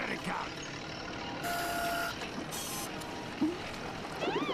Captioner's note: machine whirring